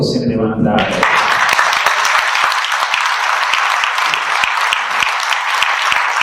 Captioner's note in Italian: Applauso